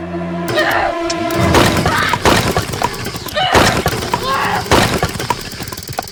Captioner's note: Macy and Kody grunting; sticks thudding